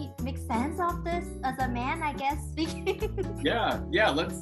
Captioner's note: laughs